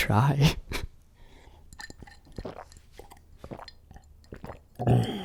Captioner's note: loud swallowing